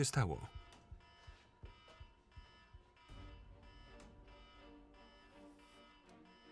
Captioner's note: alarm blares; tense instrumental music